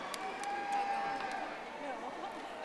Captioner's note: audience applauding